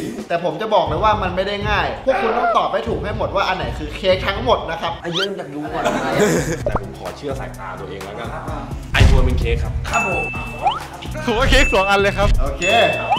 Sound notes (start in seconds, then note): 5.7 chuckles